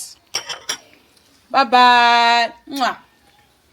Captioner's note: kisses